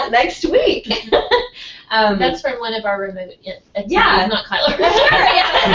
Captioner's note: laugh